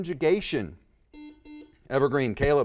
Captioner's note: buzzer dings